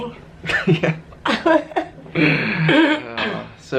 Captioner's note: chuckling